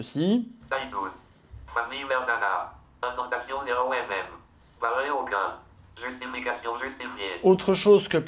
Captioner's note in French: vocalisation par le lecteur d'écran Orca